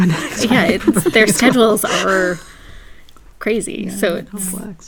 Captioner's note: laugh